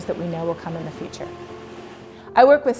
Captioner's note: wind blowing